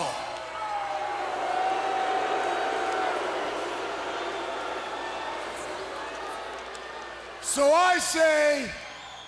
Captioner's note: crowd chatter